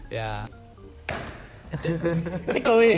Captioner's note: smacks table